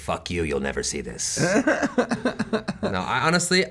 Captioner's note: laughter